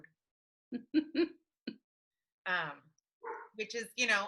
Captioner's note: chuckling